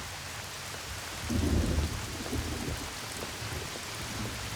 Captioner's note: thunder